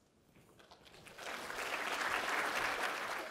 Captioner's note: applause